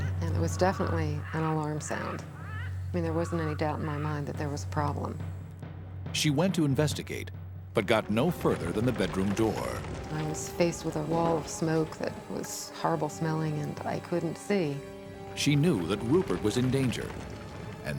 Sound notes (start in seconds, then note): 0.0 Rupert squawking; 7.7 fire crackling